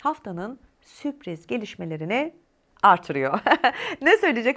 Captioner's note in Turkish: kahkaha